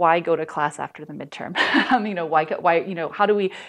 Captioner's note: laughter